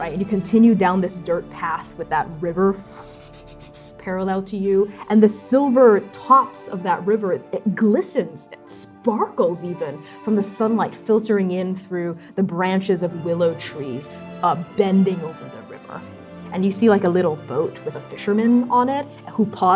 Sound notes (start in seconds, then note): 2.8 fwooshing